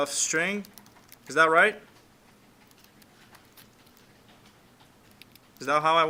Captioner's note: clicking Sounds